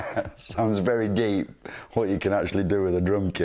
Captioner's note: laugh